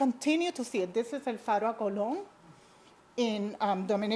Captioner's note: speaks in foreign language